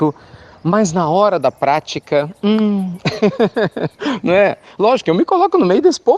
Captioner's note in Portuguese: Risos